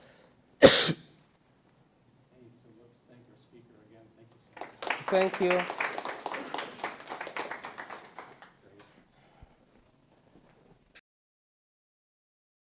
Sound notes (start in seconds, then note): 6.8 audience applauding